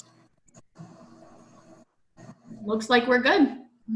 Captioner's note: silence